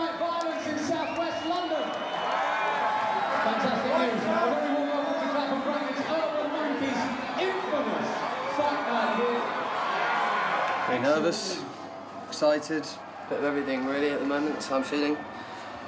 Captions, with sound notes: Thursday night violence in southwest London? (crowd cheers) Fantastic news! A very warm welcome to Clapham Grand (Crowd ambience) - Pretty nervous, excited, a bit of everything at the moment thats how I'm feeling.